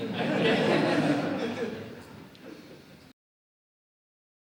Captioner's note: audience laughs